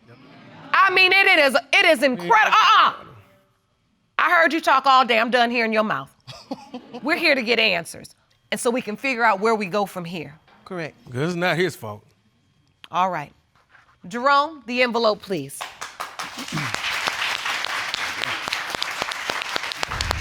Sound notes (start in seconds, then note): 15.6 audience applauding